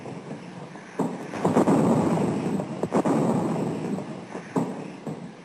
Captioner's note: heavy artillery booming